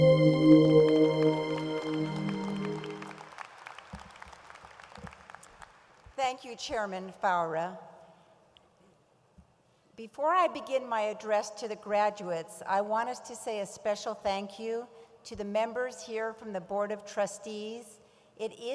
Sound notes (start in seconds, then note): 2.1 audience applauds